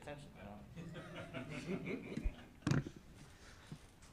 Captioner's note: laughter